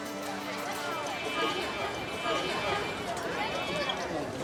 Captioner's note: multitud hablando